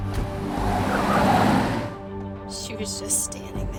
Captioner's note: tires squealing